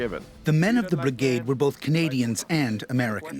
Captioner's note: voiceover